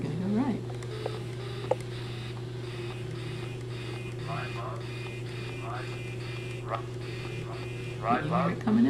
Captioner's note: calculator Noises